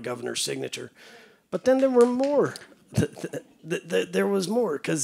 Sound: clapping

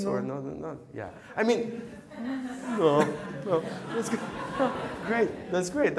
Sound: playfully mocks

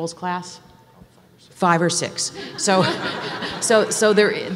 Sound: audience laughs

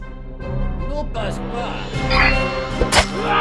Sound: French

